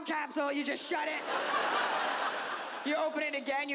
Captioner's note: audience laughs